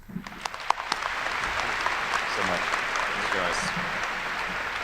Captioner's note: enthusiastic applause